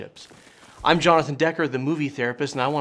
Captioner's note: static crackling